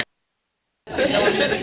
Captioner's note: audio cuts; audience laughs